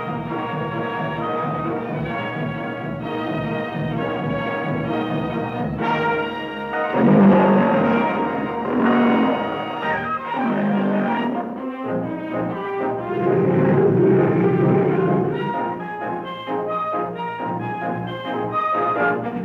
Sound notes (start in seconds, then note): 6.9 lions roaring; 10.0 bright music